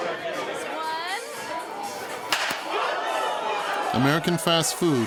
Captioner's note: spanker clapping